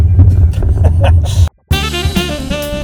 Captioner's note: laughs